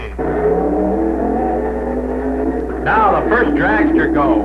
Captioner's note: engines roaring